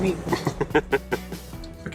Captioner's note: laughing